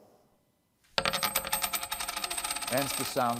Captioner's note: coin clinking on table